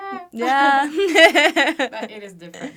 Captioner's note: laughter